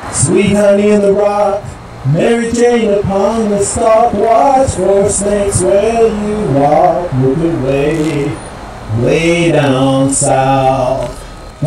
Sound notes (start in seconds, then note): none